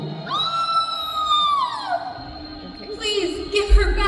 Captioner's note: screams